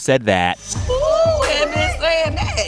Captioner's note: soundbite of tv show, "the real housewives of atlanta"